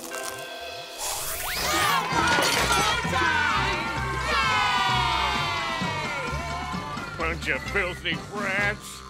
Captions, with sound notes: [cheering] Yay! Bunch of filthy brats!